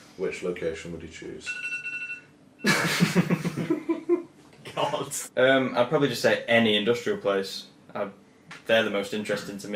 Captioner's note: laughing